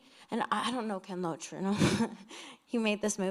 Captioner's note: chuckles